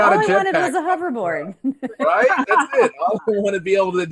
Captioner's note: panelists laughs